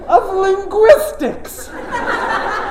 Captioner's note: laughter